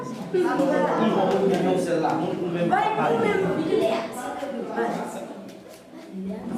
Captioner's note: mingled voices in French, Kreyol